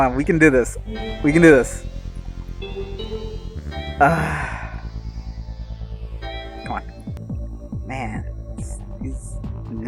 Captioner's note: sigh